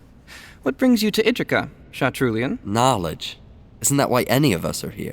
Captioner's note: sarcastic